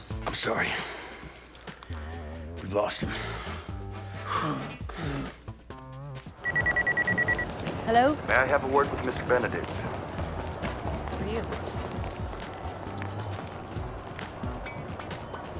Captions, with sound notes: I'm Sorry. We've lost him. (sighing) (phone ringing) Hello? May I have a word with Mr. Benedict? It's for you